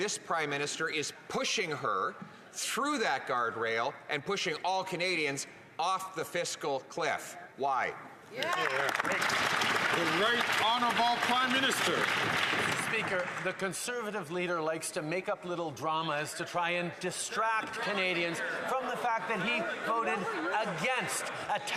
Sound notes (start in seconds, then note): 11.5 some Applause